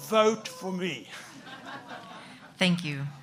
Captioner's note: audience laughs